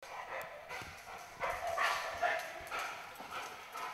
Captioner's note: dog panting